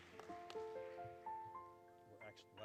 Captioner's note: applause, Music